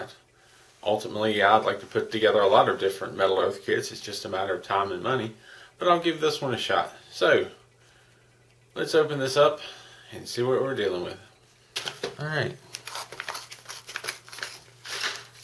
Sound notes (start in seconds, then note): 12.8 tearing sounds